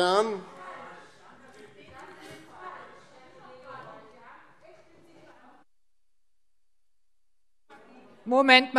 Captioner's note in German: Anhaltende Unruhe SPD